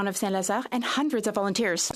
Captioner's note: speaking French